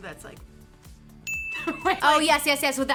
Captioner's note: laughs; emoji dings